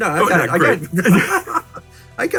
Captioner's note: laughing